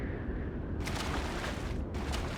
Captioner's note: splash